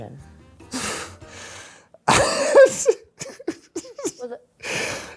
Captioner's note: laughing